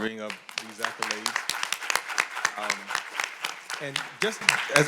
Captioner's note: audience applauding